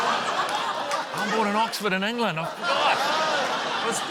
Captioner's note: laughter